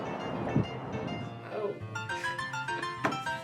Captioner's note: chuckles